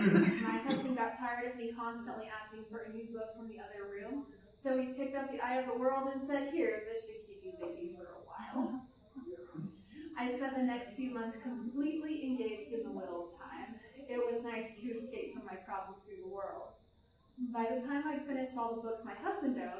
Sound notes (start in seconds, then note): 8.6 laughter